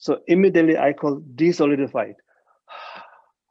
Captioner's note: exhales